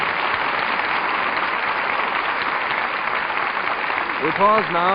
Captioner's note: audience applauding